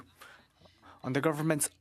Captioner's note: speaking French